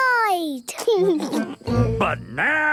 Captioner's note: laughing